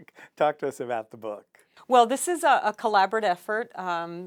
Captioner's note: laughs